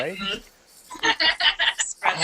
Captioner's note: laughter